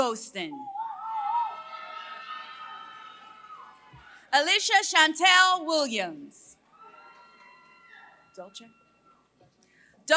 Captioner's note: applause